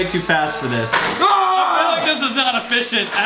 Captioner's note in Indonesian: jeritan